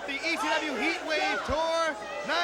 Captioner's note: crowd chatter